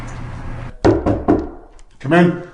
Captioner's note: knocking